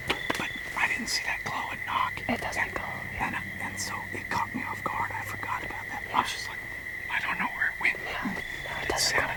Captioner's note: whispering